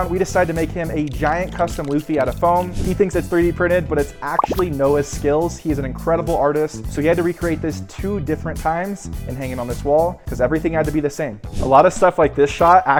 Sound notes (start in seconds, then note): 4.3 effect popping